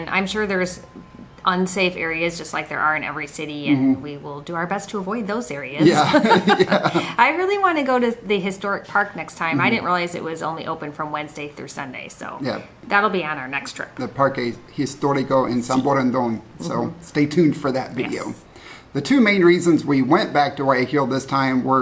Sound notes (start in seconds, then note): 5.8 both laugh